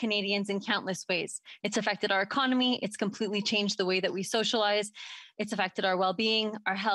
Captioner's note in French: voix de l'interprète